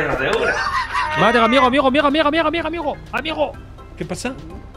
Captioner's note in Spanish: acento francés